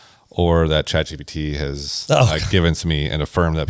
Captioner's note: laughs